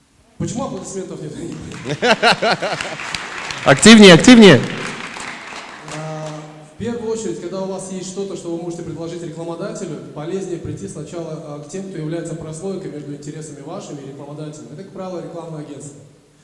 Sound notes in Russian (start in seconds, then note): 1.4 аплодисменты; 1.6 смех